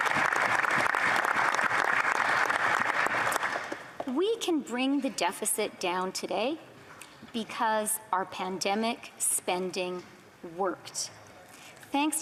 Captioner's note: applause